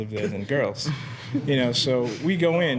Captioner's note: students chuckling